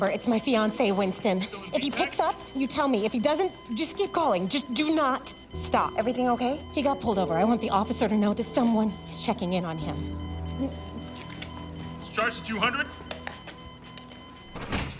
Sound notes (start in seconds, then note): 13.2 beeping continues